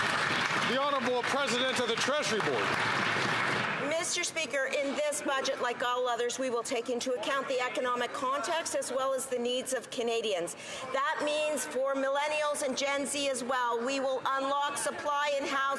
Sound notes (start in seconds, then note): 4.8 some Applause